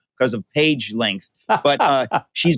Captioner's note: laughing